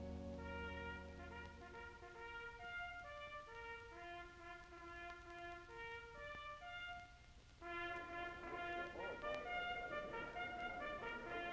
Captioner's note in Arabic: بوق